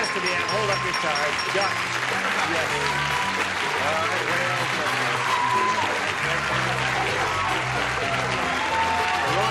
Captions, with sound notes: Yeah, hold up your cards. [cheering and applause]